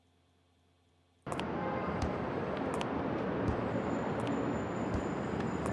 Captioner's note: repetitive thumping on concrete